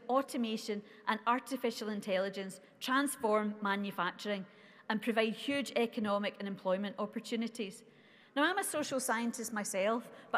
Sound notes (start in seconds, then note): none